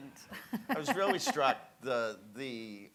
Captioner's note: chuckles